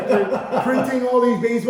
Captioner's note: laughing